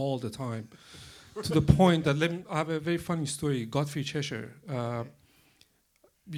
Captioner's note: laughter